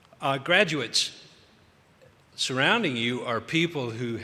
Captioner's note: none